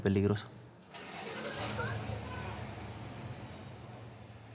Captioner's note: arranca auto